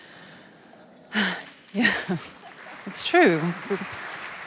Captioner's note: applause